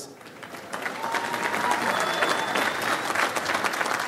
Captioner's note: audience applauds